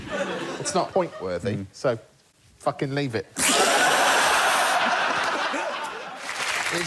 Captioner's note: laughter